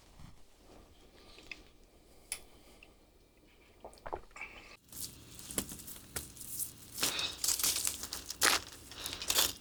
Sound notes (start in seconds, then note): 3.9 Brown and Donovan gulping